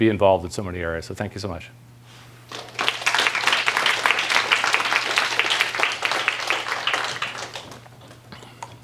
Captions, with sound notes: involved in so many areas. So thank you so much. [APPLAUSE]